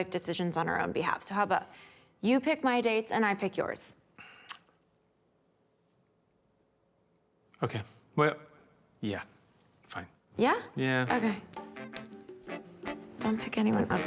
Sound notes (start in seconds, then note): 4.4 clicks tongue